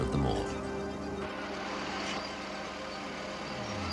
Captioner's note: machine engines turning